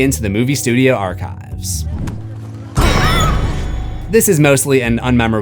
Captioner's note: screams